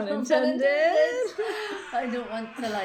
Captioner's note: both laugh